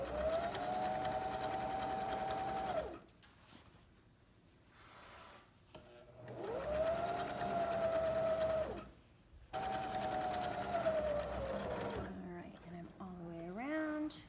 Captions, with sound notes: [sewing machine hums] [sewing machine hums] all right, and I'm all the way around...